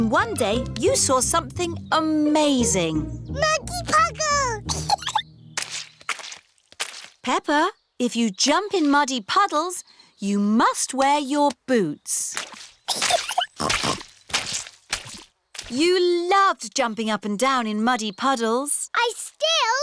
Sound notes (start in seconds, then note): 4.6 giggles; 12.9 giggles and snorts